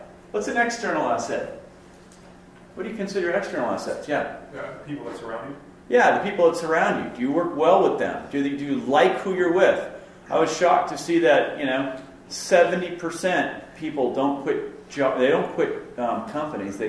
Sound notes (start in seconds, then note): 4.5 voiceover